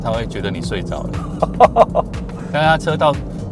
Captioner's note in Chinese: 哈哈哈